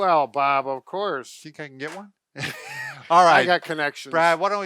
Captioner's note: laughs